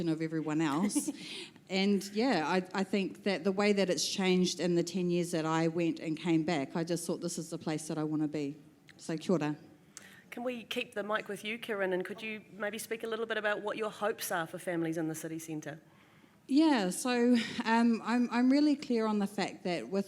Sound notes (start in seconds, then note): 9.3 foreign language